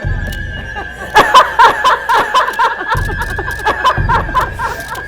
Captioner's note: laughing